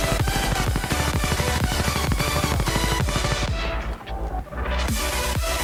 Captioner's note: helicopter hovering